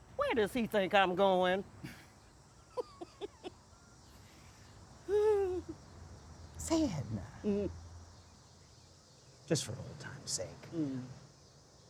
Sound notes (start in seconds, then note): 2.7 Edna laughs; 2.7 Sam chuckles; 5.1 Edna sighs